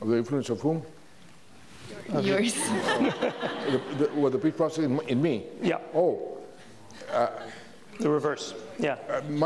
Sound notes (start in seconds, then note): 2.6 audience laughs